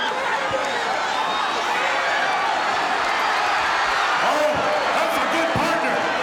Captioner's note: audience cheering